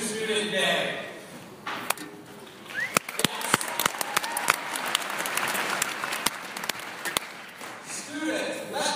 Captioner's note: applause